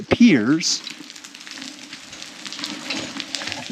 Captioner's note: rocks and gravel crunching